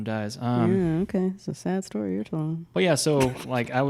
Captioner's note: laughs